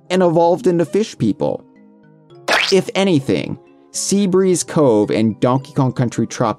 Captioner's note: squishing noise